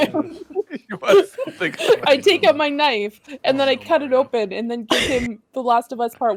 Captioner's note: everyone laughs